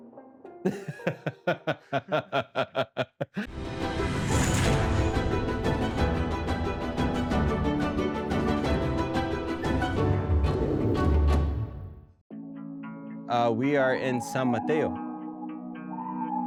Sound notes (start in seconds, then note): 0.6 laughter